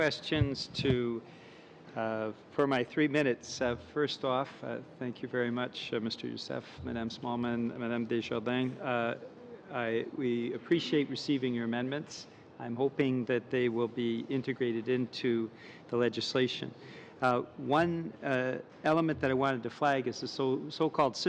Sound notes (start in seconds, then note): 12.7 speaking in french